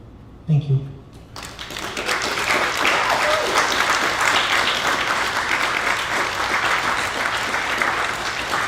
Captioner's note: applause